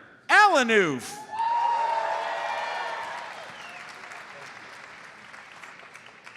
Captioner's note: audience cheers and applauds